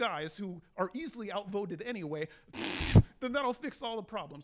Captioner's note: snickers